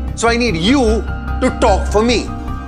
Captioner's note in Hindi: none